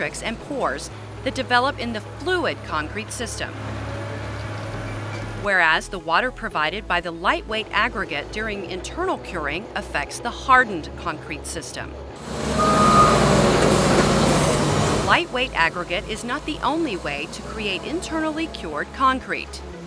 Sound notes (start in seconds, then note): 3.4 paving equipment noise; 12.1 loader reversing